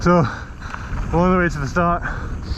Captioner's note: breathing heavily